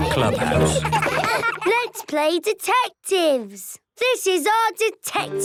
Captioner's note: giggling